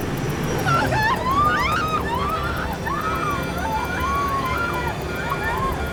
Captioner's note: passengers screaming